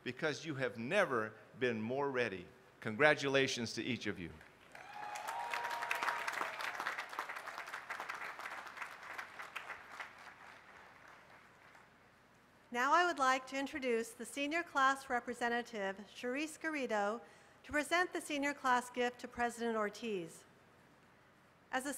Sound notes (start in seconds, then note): 8.4 applause